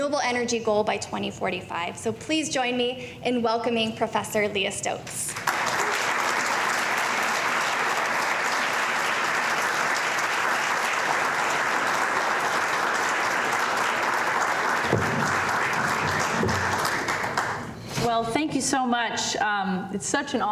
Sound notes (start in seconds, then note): 5.2 applause